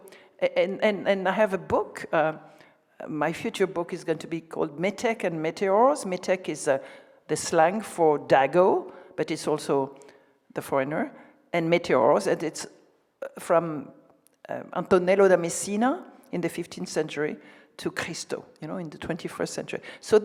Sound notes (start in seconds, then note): 5.1 speaks in foreign language